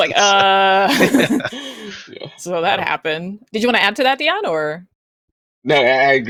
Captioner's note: laughs